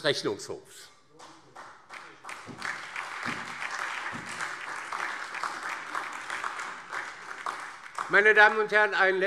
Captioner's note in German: Beifall DIE LINKE und SPD